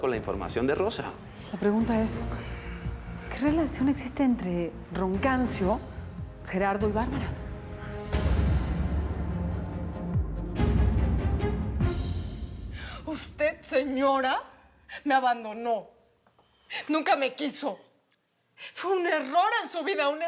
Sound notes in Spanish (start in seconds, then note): none